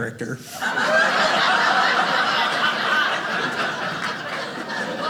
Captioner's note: audience laughing